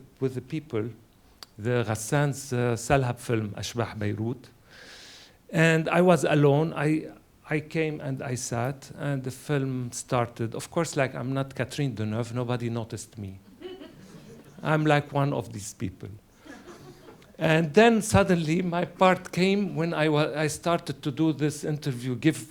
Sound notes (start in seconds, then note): 13.6 audience laughs; 16.4 laughter